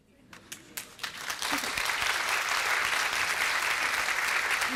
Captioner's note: applause